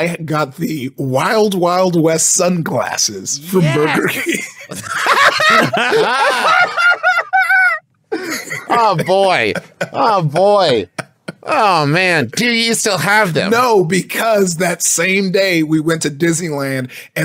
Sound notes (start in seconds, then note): 3.6 laughing; 10.9 laughing